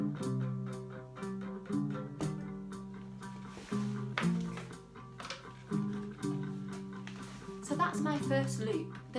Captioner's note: the recording plays in the background